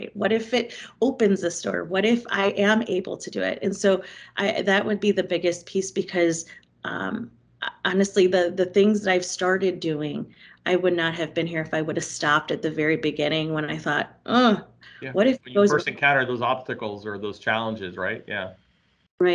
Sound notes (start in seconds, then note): 14.2 groans